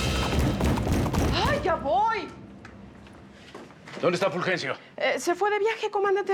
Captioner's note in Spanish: toques fuertes en la puerta